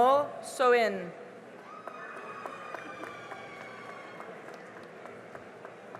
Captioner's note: cheering and applause